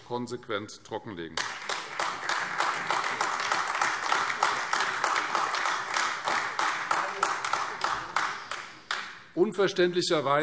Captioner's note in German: Beifall Freie Demokraten und AfD